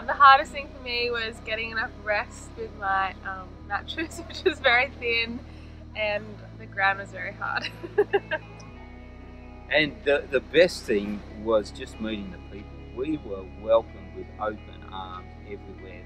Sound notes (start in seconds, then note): 7.6 laughs